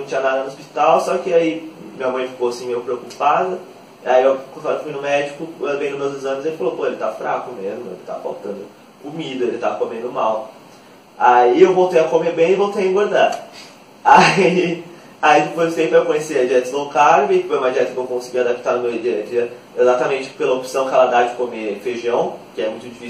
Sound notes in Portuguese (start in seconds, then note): 14.2 risos